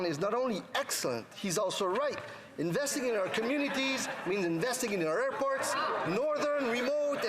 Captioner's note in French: voix de l'interprète